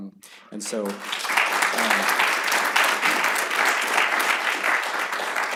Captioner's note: applause